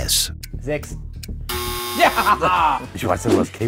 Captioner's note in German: Hämisches Lachen